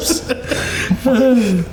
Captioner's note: all laughing